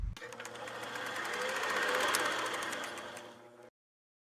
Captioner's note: film reeling